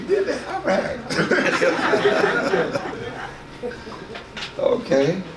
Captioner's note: audience laughs